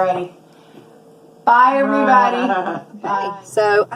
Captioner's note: laughing